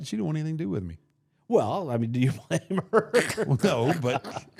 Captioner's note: laughs